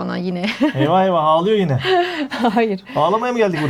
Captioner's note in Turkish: kahkaha